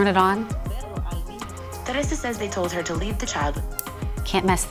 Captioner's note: radio playing